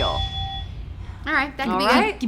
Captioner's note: buzzer rings